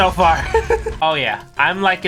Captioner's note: laughing